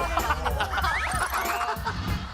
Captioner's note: giggles